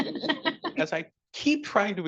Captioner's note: attendees laughing